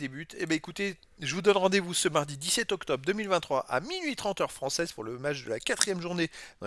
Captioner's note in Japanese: フランス語